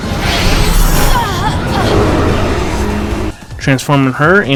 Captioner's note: groans